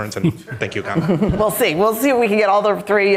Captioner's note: all laughing